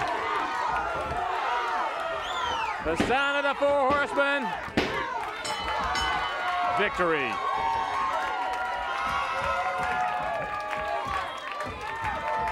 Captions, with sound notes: (crowd cheering and yelling) The sound of the Four Horsemen. (bell dinging) Victory. (crowd cheering)